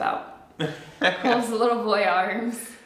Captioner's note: laughs